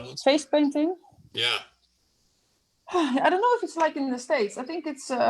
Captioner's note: sighs